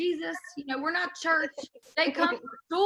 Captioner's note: laughing